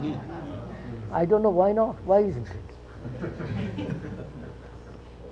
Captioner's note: laughter